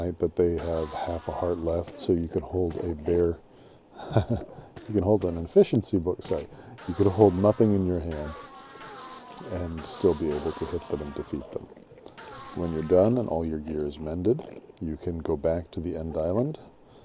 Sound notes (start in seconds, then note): 3.9 chuckles; 4.0 in higher voice